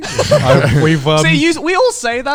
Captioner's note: chuckles